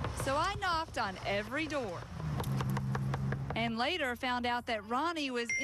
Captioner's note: knocking